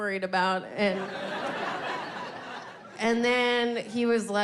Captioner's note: audience laughing